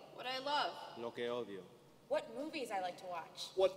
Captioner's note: speaking native language